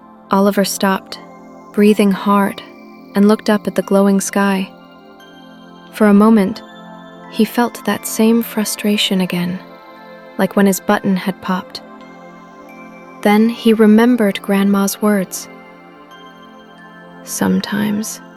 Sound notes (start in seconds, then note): 15.8 gentle, thoughtful tone